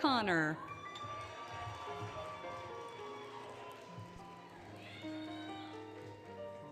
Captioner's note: applause, Cheering, Music